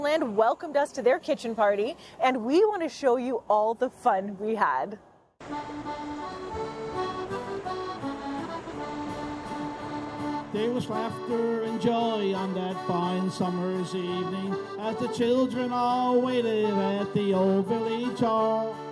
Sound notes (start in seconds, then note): 5.4 waves rolling; 5.8 soft upbeat music